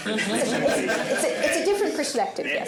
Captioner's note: laughter